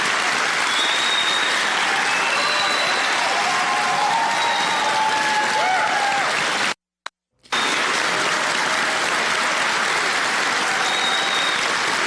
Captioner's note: applause